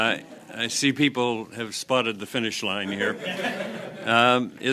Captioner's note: some Laughter